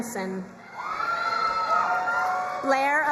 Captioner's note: crowd cheering and applauding